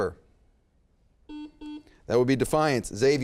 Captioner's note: beep